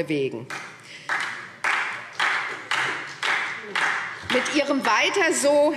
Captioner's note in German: Beifall SPD